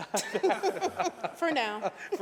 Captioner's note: laughter